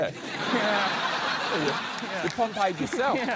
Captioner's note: laughter